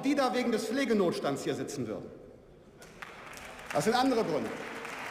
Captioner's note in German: Beifall